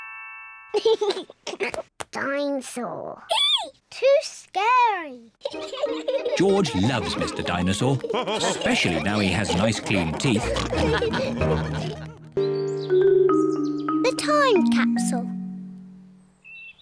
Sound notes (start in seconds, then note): 0.8 giggles; 5.4 both giggle; 11.1 all laugh